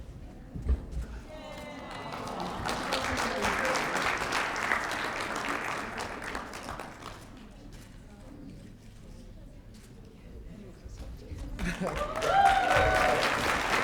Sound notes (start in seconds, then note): 1.3 applause